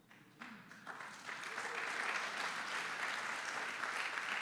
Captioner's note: audience applauding